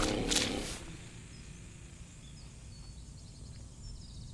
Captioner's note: growling; birds chirping